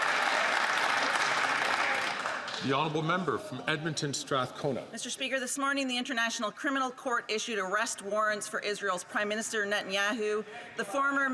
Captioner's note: some Applause